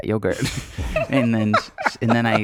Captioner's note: laughing